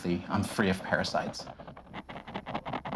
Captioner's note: scraping